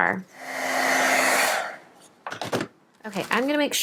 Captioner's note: air blows